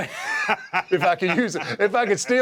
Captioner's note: laugh